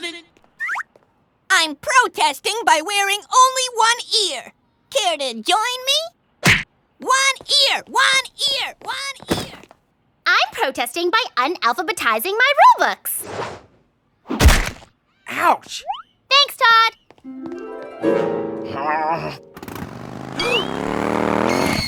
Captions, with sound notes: I'M PROTESTING BY WEARING ONLY ONE EAR. CARE TO JOIN ME? ONE EAR, ONE EAR, ONE EAR! I'M PROTESTING BY "UNALPHABETIZING" MY RULEBOOKS! OUCH! THANKS, TODD! (GROWLS) (MOTORCYCLE RUMBLES) (GASPS)